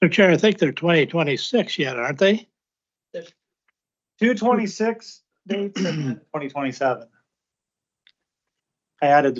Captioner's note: clears throat